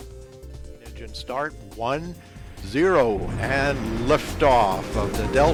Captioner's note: rocket launch roaring sound